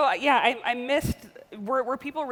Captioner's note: rolling R